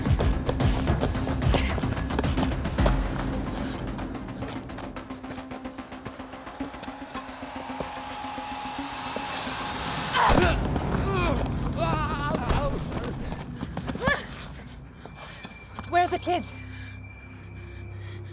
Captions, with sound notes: (both grunting) - Where are the kids?